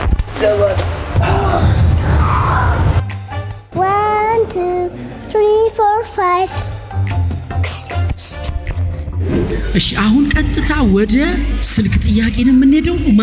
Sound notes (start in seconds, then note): 1.1 breathing heavily